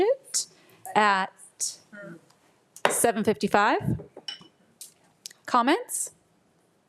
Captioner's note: gavel thuds